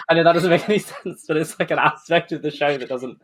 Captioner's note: laughing